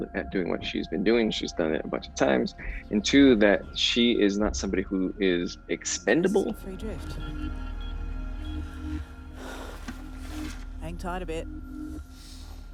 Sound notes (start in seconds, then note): 9.4 sighs